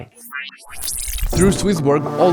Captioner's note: machine whirring